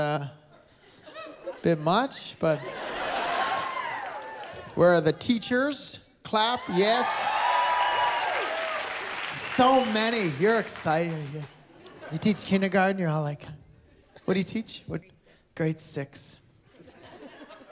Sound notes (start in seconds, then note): 2.4 laughter and cheering; 6.6 applause, cheering